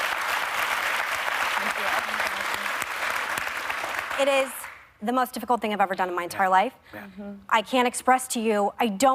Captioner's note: applause